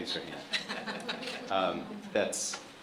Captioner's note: chuckling